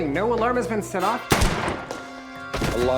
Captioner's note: gun firing